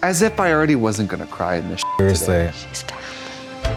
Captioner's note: beep